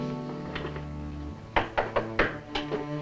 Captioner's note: knocking on door